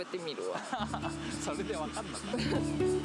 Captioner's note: haha